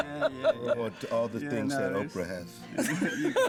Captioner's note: laughing